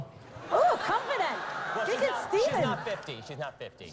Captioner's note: laughter